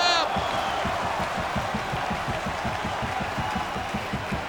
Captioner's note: audience cheering